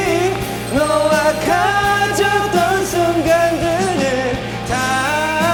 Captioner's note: patting; singing hard